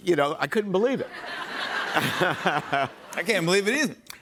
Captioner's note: laughter